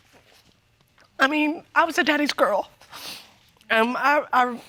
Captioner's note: sniffling